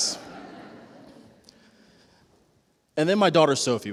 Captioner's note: laughter